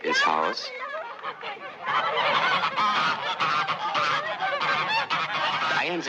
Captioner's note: goose Chatter Can Be Heard